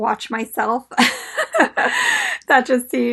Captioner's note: laughs